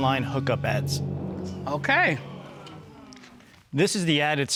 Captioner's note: audience gasping